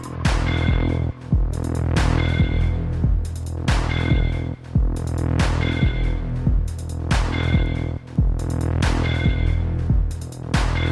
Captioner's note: laughing